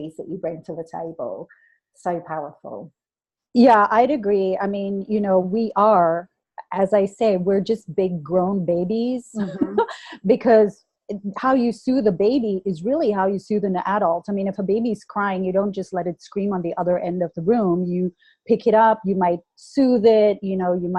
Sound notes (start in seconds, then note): 9.6 laughs